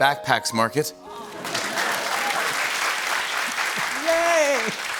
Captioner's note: applause